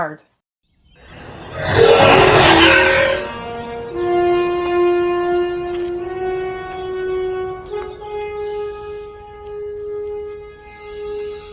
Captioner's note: beast getting closer and music